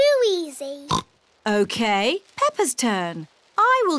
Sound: oinks

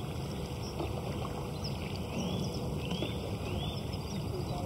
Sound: birdsong

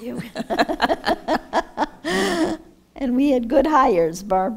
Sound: laughs

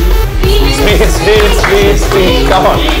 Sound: crowd cheering

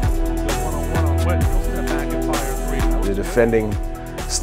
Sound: announcer speaking under music

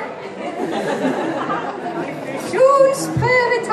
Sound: laughter

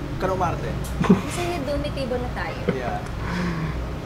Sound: giggles

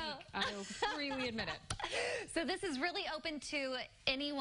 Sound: laughter

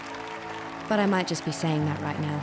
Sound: cheering and applause

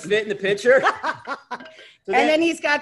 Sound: laughter

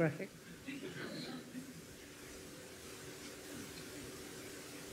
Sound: audience laughs

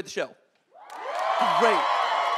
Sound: audience cheering

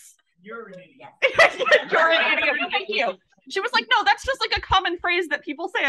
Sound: laughs

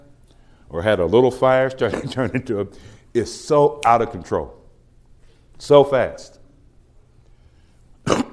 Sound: laughs

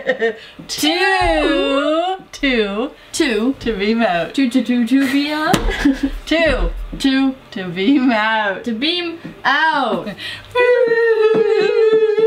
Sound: laugh; whooo

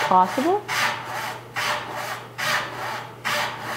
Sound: rasping

